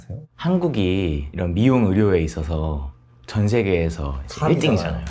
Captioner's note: speaking in Korean